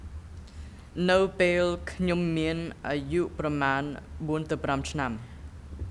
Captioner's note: speaking in a foreign language